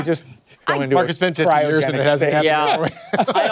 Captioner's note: laughter